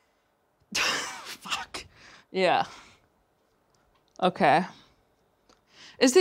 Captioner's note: laughs